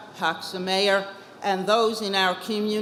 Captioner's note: speaks foreign language